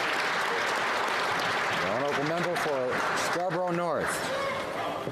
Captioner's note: applause